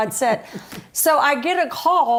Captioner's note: laughter